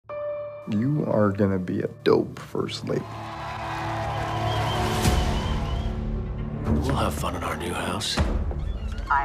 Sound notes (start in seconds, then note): 2.9 cheering